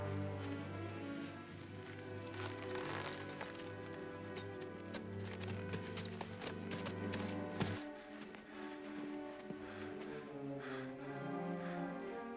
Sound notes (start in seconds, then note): 0.0 dramatic music; 0.2 ominous music; 5.0 hoofbeats; 5.0 ominous music